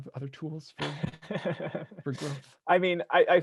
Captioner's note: laughing